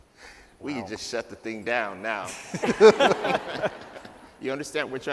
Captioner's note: laughter